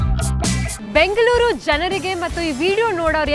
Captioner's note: in Kannada; in Kannada